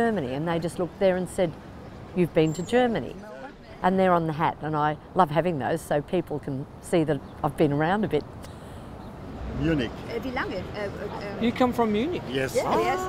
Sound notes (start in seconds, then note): 10.1 speaks German